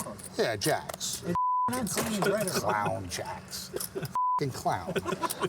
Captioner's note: beep; laughs